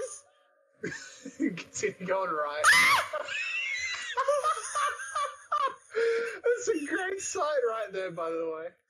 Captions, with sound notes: Continue going right. *Squeals in regret* *Laughs in troll* There’s a grace site right there, by the way.